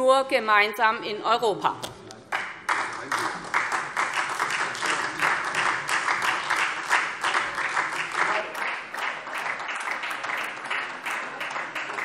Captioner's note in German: Beifall SPD